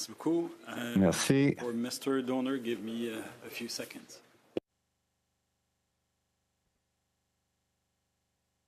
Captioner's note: speaking French